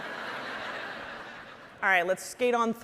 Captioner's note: audience laughing